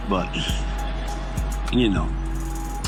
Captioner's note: noisy city